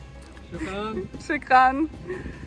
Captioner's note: guide saying 'Thank you' in arabic